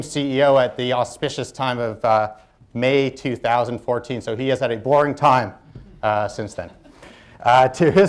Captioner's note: laughter